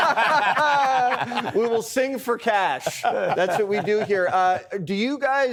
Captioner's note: laughs